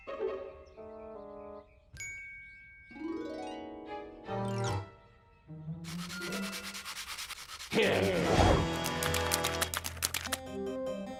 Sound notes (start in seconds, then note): 7.3 growls